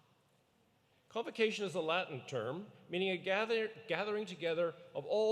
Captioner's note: none